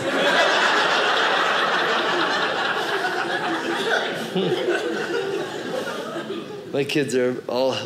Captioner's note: audience laughing